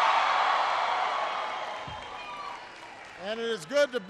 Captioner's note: applause